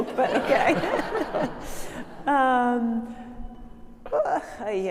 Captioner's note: audience laughing